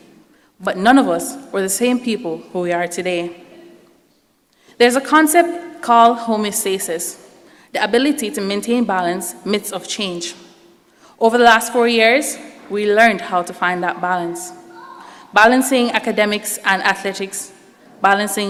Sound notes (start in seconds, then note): none